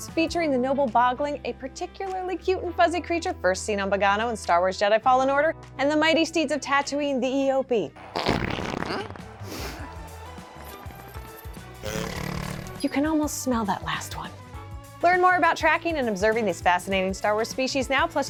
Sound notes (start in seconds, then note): 8.2 sniffs; 11.8 eopie grunts